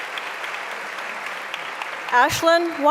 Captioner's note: applause